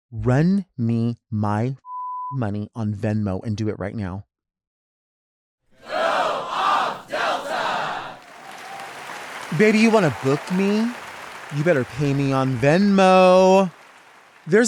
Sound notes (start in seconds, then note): 8.0 audience applauds